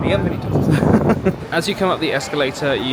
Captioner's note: laughing